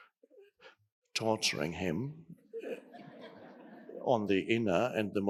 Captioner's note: audience laughing